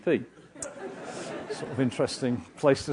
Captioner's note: laugh